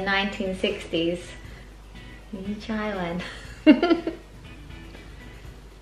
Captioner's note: chuckles